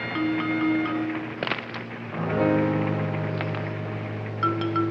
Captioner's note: rocks clattering